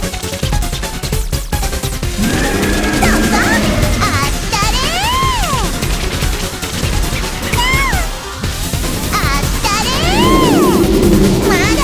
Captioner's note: laughs